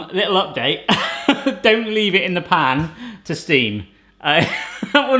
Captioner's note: laughs